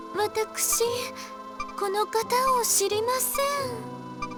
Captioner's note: none